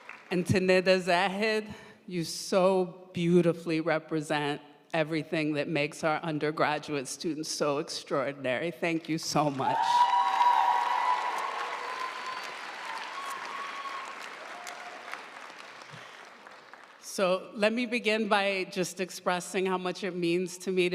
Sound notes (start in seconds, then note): 9.5 audience cheering and applauding